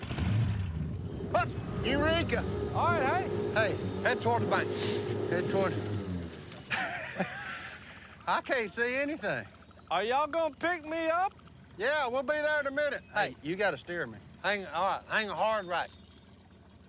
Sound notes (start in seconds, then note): 5.0 laughing